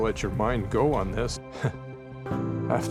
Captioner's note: chuckles